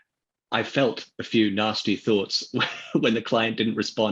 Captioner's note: laughs